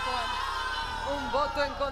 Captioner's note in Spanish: Exclamaciones